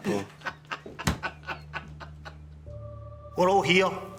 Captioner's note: laughing